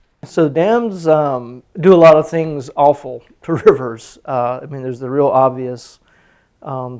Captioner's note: none